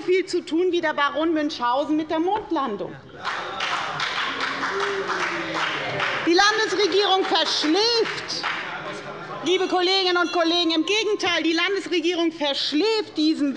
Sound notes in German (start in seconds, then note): 3.2 Heiterkeit und Beifall bei der FDP